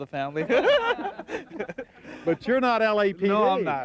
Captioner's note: laughing